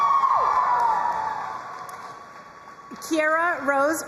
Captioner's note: crowd cheering and applauding